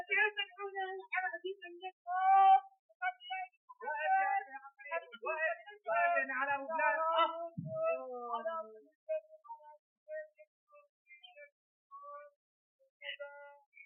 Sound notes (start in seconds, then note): 2.9 men shouting in Arabic; 7.7 moaning, muttering in Arabic